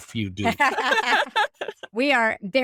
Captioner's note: laughing